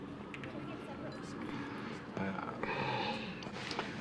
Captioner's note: sighs